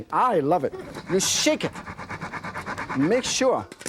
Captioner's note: wok scrapping counter